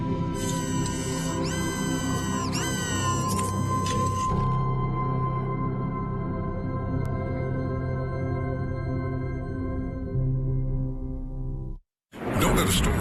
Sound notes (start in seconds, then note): 4.4 mechanical whir